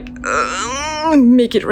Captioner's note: groans